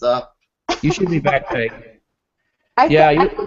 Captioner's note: laughing